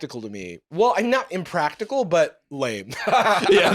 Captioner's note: laughs